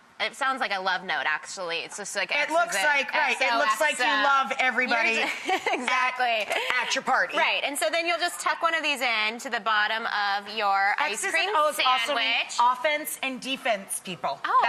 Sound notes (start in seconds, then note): 5.1 laughs